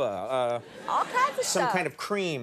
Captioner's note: audience laughing